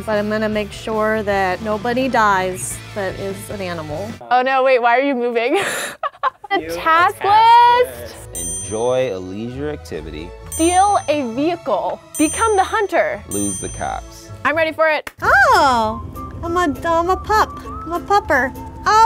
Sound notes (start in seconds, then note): 5.5 laughs; 9.6 idyllic string music; 15.2 cheerful music